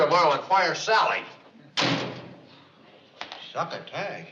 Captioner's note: door slamming